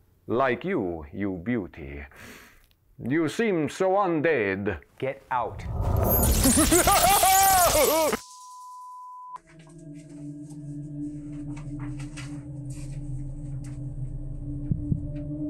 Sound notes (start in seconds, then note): 5.8 bats chirping and flying; 8.2 signal tone